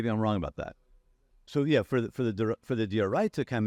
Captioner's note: faintly speaking